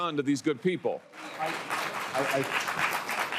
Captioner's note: applause